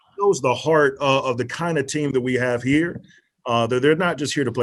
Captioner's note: murmurs